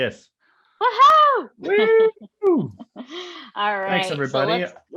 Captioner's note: exclaims loudly